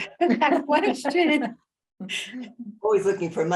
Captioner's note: laughs